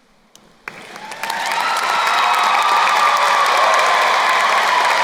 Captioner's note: crowd cheering and applauding